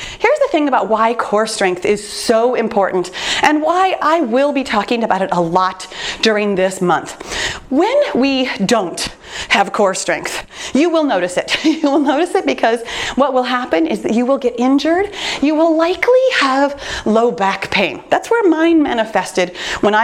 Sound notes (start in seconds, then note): 11.5 chuckles